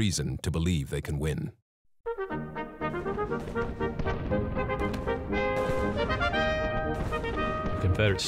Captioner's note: gun shots